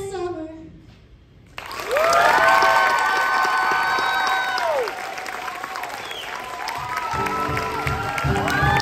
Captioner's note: applause